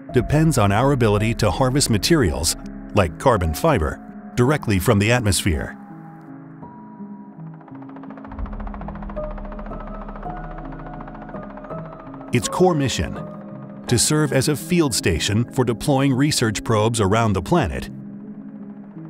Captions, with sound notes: depends on our ability to harvest materials, like carbon fiber, directly from the atmosphere. (propellers clicking) Its core mission to serve as a field station for deploying research probes around the planet